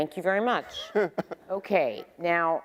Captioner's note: laughing